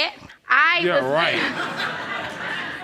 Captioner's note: audience laughs